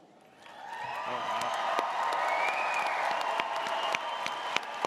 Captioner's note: audience cheers